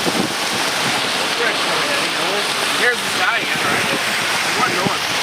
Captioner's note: chattering